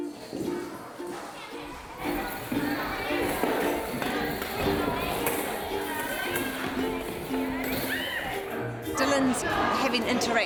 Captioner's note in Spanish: gritos de niños